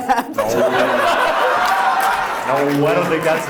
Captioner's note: audience laughs